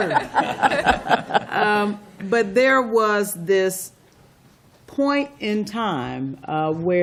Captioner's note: laughter